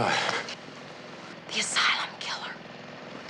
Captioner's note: whispering